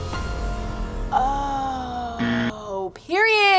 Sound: tense music; buzzer rings

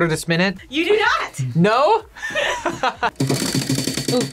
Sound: laughs

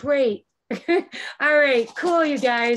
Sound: chuckling

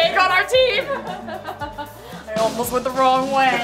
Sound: laughing

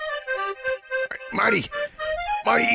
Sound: in deformed Rick voice

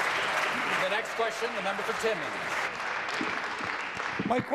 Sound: applause

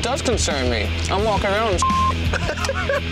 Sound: beep

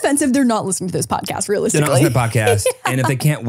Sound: laughs

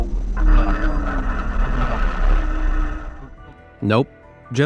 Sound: radio static crackling

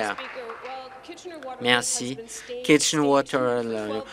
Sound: applause

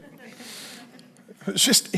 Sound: congregation laughing

